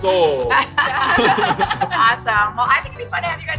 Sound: laughing

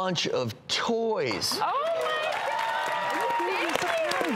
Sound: applause

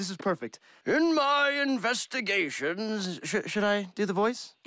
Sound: old man voice

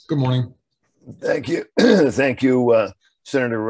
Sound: clears throat

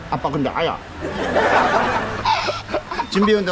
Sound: laughing

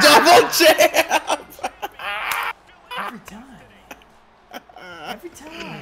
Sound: laugh

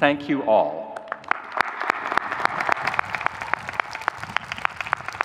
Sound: audience cheering

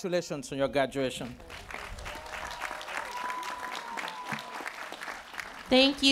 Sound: cheering

